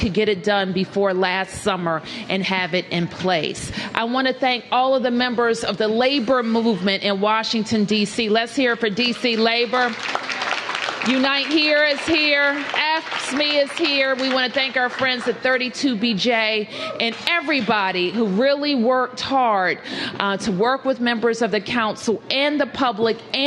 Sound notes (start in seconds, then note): 9.2 applause